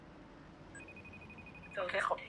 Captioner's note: dialing tone